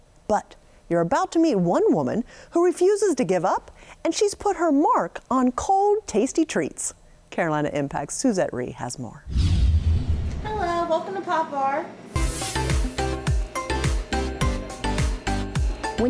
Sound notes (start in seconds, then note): 9.2 air whooshes; 12.1 air whooshes; 12.1 bright, lively music